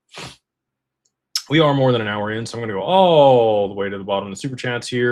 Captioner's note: snorts